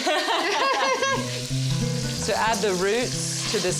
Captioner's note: Vivian and Pati laugh